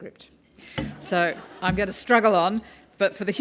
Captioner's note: laugh